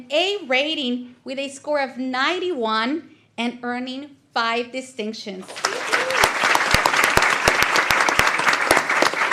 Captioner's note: applause